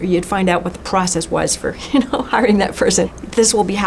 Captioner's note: chuckles